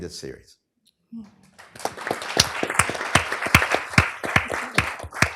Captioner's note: applause